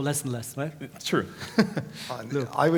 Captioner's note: laugh